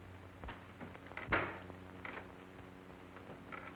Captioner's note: door opens